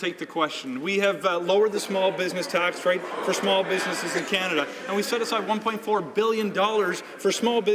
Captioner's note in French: voix de l'interprte